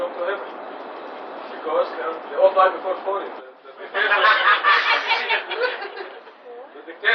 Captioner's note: gülüşmeler